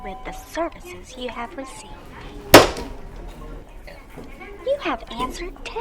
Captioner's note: slams phone down